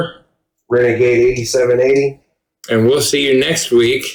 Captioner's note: none